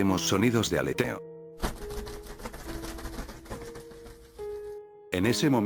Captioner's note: flutter sounds playing